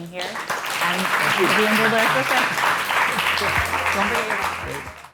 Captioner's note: applause